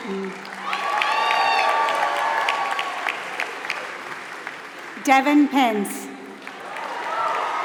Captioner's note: applause